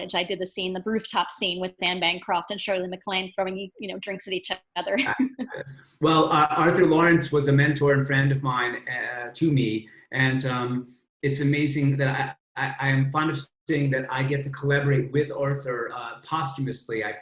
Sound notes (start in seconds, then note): 6.0 chuckles